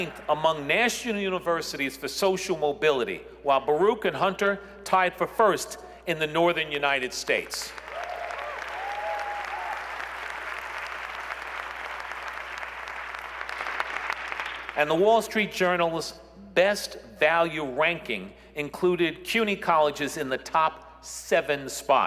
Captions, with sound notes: City? Did I hear someone say City? Okay. As ninth among national universities for social mobility, while Baruch and Hunter tied for first in the northern United States. [ Applause ] And "The Wall Street Journal's" best value ranking